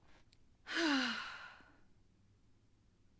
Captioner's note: sigh